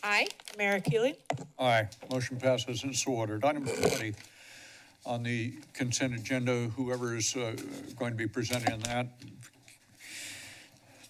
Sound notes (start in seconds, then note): 2.2 distorted mic; 9.3 pause